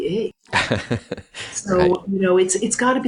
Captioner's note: laughs